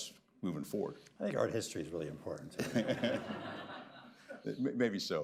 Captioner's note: laughter